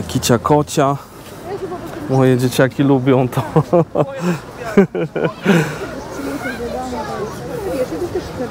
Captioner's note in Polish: śmiech